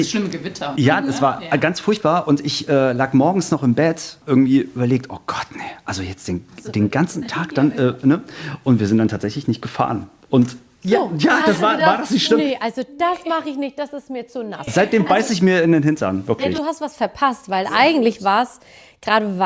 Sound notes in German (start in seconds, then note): 11.8 gelächter